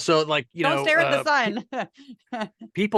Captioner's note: laugh